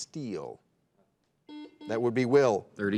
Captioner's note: buzzer dings